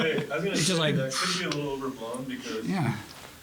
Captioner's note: laugh